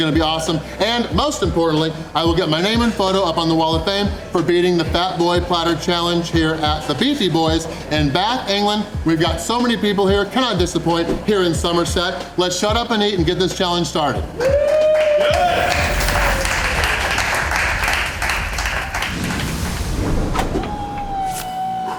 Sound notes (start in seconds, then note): 14.2 crowd clapping and cheering